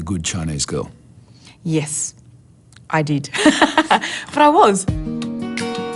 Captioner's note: laughs